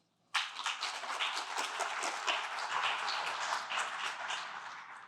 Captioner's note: applause